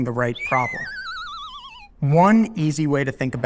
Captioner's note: slide whistle blows